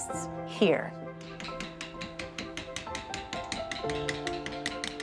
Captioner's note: rapid tapping